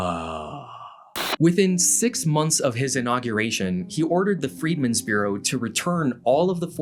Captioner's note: Static